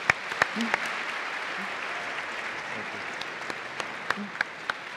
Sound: audience applauding

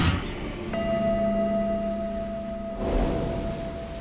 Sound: bell ringing

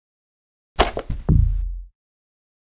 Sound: thud

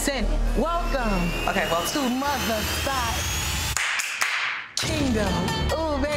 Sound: claps

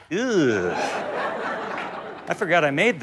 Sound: audience laughs

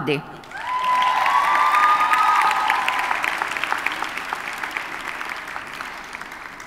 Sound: audience cheers and applauds

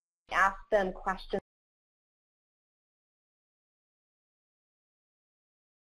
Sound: audio interference

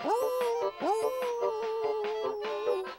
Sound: howls; polka music

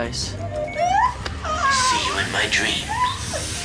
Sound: woman crying

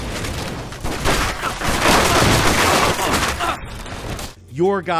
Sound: fences collapsing; gun fighting

